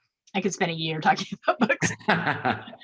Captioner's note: laughs